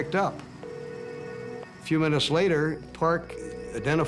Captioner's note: phone ringing